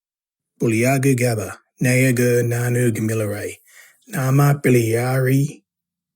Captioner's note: narrator speaking in Kamilaroi language